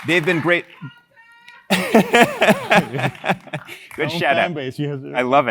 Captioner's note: applause; laugh